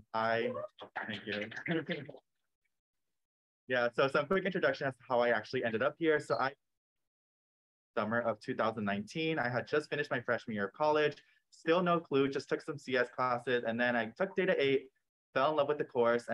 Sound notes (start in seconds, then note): 0.2 cheering, applause; 0.9 laughs